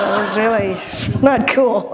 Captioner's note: laughter